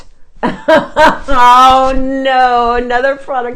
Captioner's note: laughs